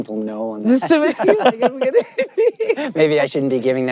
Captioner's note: laughter